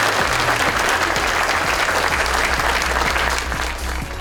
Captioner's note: audience applauds